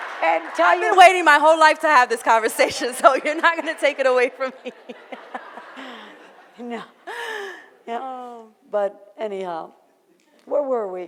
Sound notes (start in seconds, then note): 0.0 audience laughter; 6.0 laughs